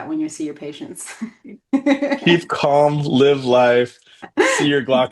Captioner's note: laughing